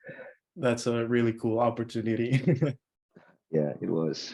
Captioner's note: laughs